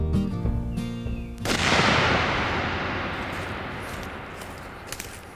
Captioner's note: bullet ricocheting